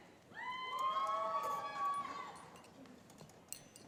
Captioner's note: cheering